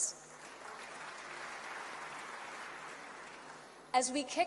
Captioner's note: applause